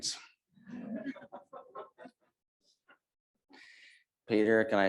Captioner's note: audience laughs